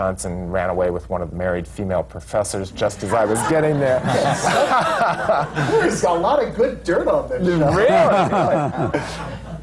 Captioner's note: laughs